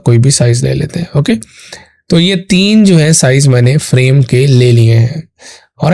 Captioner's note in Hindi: नाक से की जाने वाली आवाज़